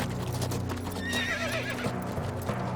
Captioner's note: horse whinnies